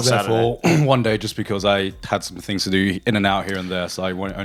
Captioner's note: clears throat